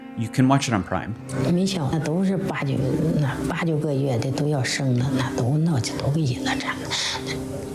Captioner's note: family planning official speaking in foreign language